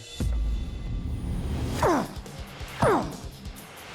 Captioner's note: grunting